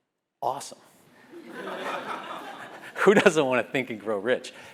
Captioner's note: laugh